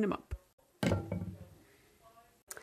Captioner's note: thud